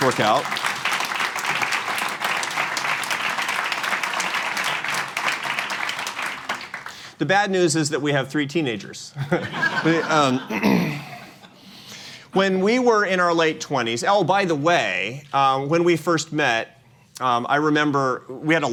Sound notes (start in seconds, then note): 6.4 applause; 9.2 laughter